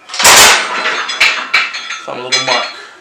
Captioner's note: desk clangs